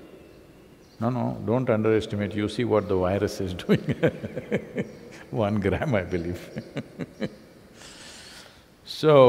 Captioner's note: laughs